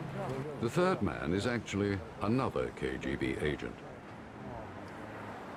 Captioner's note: men speaking in Italian